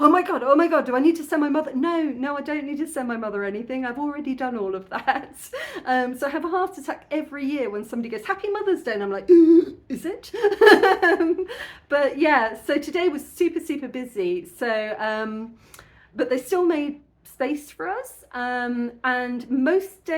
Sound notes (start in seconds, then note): 9.6 gasp; 10.4 laughing